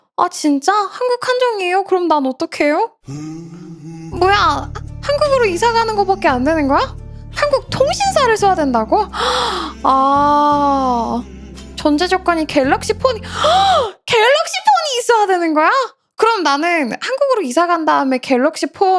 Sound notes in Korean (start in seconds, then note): 9.1 헉 소리